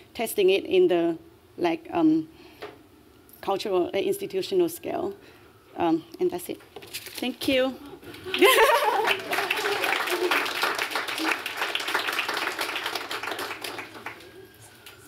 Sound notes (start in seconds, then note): 8.1 laughter; 8.2 applause